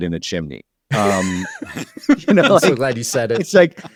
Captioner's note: laughter